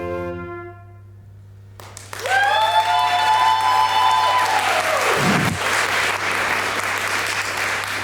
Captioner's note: audience clapping